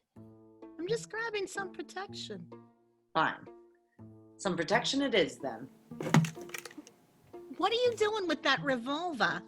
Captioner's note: gun being picked up